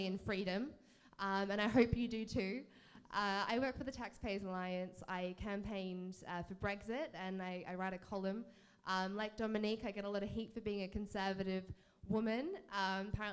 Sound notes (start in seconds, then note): none